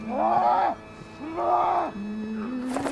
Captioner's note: Robin yells